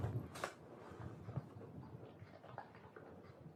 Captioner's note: plastic cracking